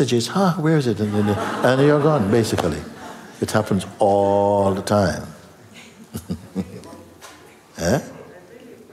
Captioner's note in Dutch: gelach